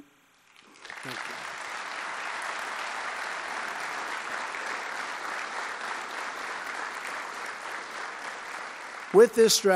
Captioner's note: applause